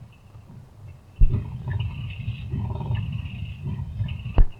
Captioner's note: winch whirring